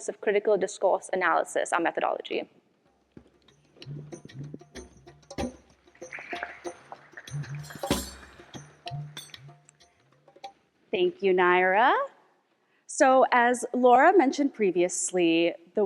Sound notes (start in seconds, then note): 3.4 upbeat music; 6.6 audience applauding